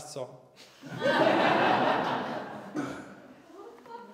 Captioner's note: laughter